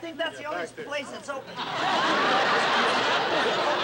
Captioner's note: laughter